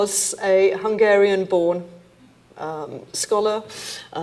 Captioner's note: none